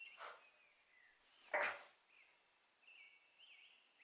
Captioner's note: birds chirping